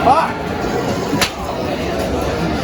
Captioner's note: smacks pinball machine